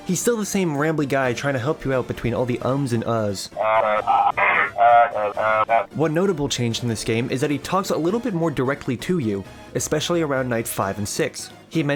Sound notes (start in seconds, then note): 3.6 ahem